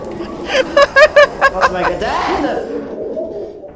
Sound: laughs

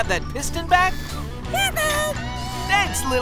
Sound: squeaking

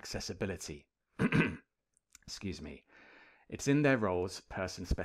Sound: clears throat

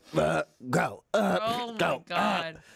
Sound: retches

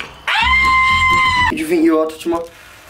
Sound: screeching

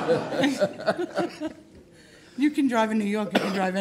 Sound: laughing

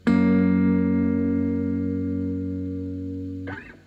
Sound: none

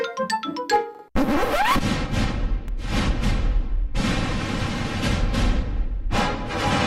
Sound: record scratches as demon music plays

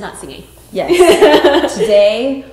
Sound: Cassey laughing

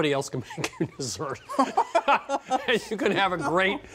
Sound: both laughing

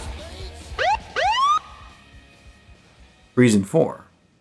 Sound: police Siren

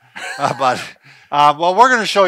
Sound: laughing

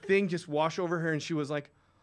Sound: gasps

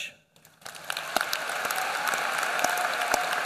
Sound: applause

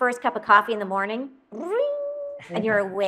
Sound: mouth ringing noise

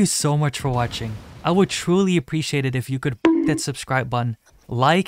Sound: bonk

